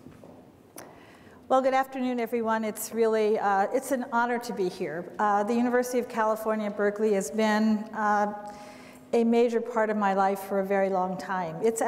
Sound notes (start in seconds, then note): none